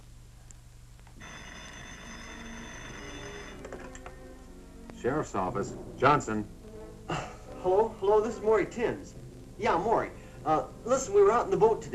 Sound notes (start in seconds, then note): 1.2 phone rings